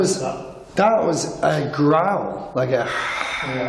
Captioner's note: hisses